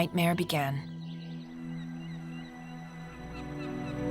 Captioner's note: birds calling